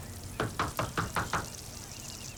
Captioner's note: knocking on door